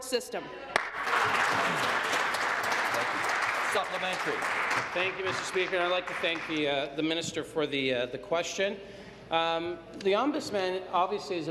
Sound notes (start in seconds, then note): 4.2 applause